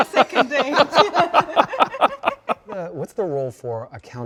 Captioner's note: all laughing